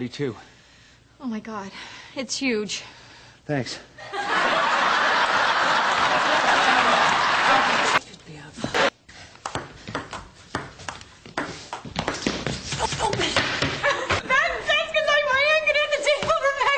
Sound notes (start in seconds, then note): 4.1 laughs